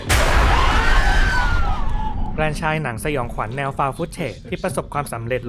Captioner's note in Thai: เสียงกรีดร้อง